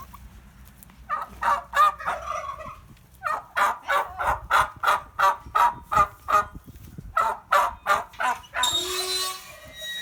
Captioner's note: turkeys vocalizing